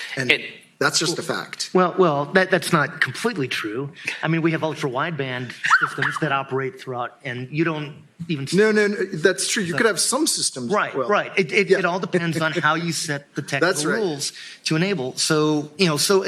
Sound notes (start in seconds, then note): 4.1 laughs